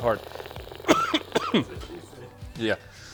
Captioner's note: coughs